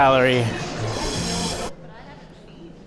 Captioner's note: slurp